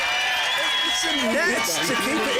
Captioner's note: cheers